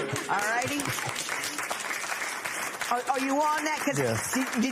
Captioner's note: applause